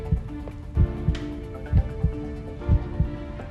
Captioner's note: heart beating